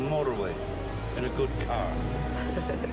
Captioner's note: giggles